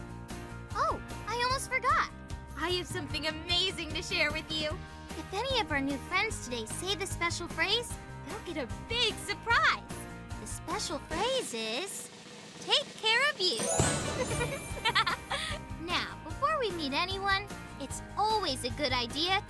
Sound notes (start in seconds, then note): 11.8 drum roll; 14.7 laughing